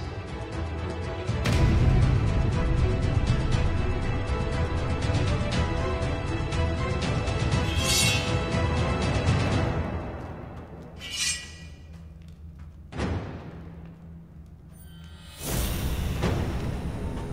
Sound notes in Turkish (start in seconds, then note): 7.5 Kılıç Sesi; 11.0 Kılıç Sesi